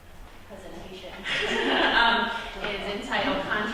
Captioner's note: laughter